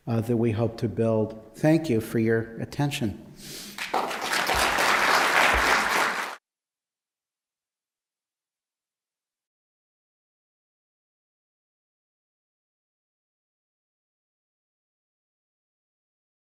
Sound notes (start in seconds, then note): 3.7 applause